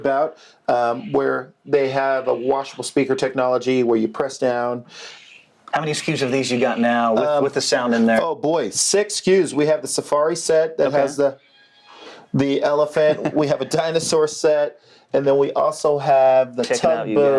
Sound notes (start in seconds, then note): 11.4 elephant trumpets